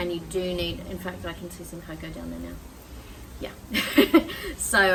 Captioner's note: laughs